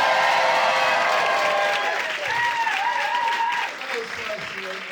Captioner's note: audience applauding; audience cheering; audience applauding